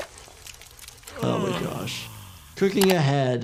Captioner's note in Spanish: Homero suspirando